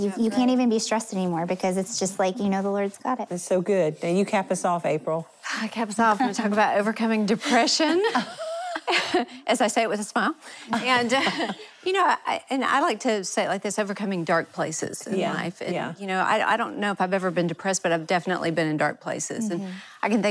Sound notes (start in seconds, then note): 7.9 laughing; 11.1 chuckles